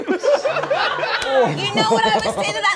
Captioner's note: all laughing